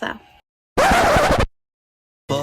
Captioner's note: sound Effect - Record scratch; Sound Effect - SpongeBob transition "Four to six more days later"